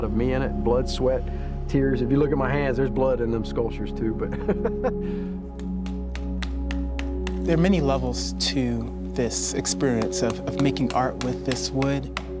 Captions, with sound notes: Blood, sweat, tears. If you look at my hands, there's blood in them sculptures too, but [laughs]. [hammer smacks] - There are many levels to this experience of making art with this wood.